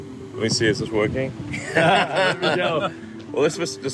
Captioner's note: laughs